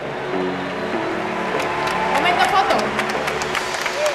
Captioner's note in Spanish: Aplausos